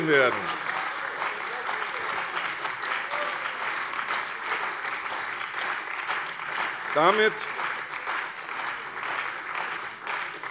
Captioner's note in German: Beifall bei der CDU und dem BÜNDNIS 90/DIE GRÜNEN